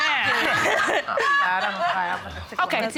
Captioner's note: laughter